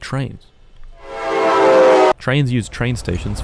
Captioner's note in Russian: Звук схода состава с пути